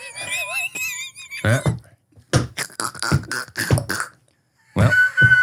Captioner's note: everybody laughs; laughs